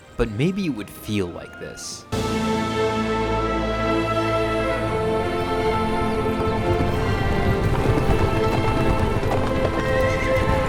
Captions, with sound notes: but maybe it would feel like this. (adventurous music) (hoofs pounding)